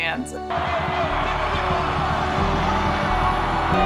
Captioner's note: crowd cheering